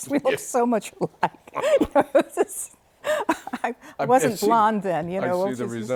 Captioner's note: laughter